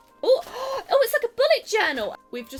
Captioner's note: gasps